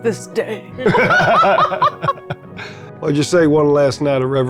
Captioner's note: players laughing